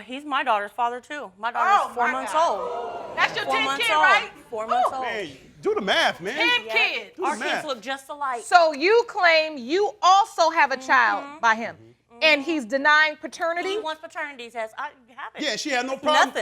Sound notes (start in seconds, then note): 3.2 crowd oohing